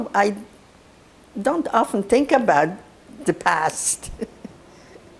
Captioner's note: laughing